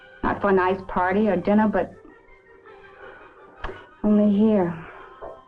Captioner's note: breathes uneasily